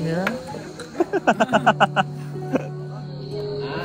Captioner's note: laughter